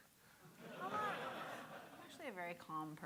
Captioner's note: audience laughing